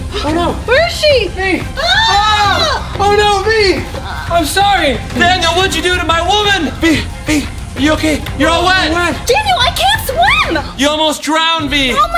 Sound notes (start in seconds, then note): 1.8 screaming